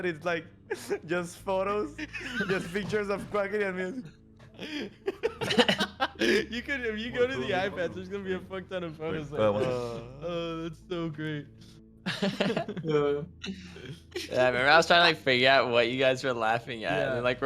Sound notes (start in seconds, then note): 4.4 laughing; 12.0 laughing